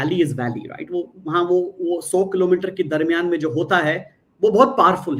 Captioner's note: non-english speech